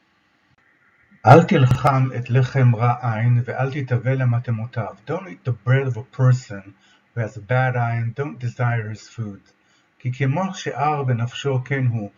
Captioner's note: Hebrew